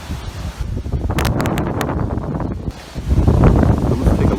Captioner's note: wind whistling